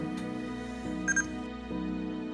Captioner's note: bebeep